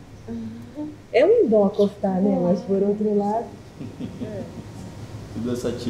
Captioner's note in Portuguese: risos